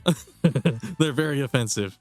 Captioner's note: laughs